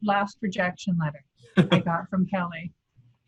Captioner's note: laughing